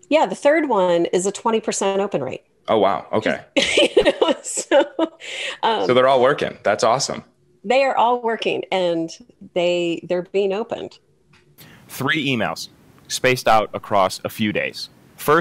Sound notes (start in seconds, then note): 3.6 laughs